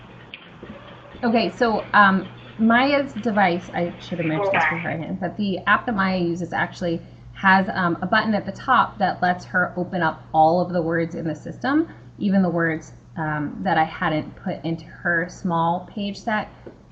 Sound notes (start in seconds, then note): 1.4 voiceover